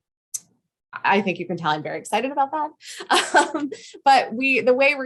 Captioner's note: laughs